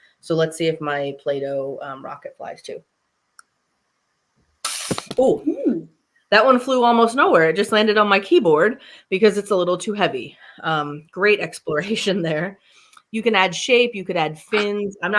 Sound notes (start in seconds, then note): 4.6 blowing in the straw